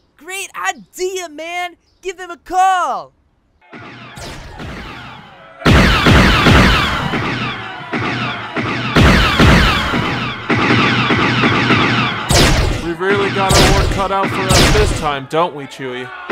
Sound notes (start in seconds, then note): 3.6 muffled blaster fire; 5.6 unmuffled blaster fire; 15.4 blaster fire continues